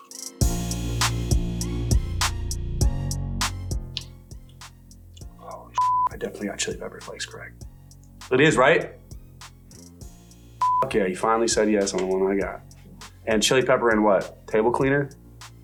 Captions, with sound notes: (bright upbeat music) Oh (beep). I definitely, got chili pepper flakes correct... It is, right? Okay, you finally said yes on when I got. And chili pepper and what, table cleaner?